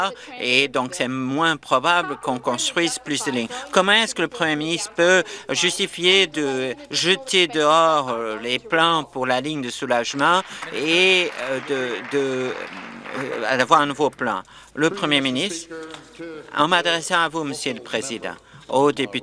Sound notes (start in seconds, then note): 12.9 applause